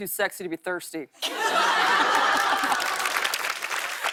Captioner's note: laughter and applause